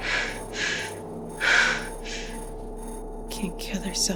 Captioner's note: Ally panting